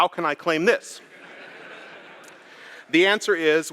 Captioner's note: laughter